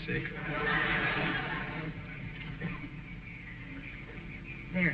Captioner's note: audience chuckling